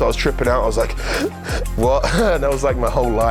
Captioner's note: breaths ruggedly